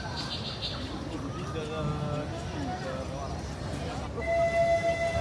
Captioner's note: birds tweeting; horn blaring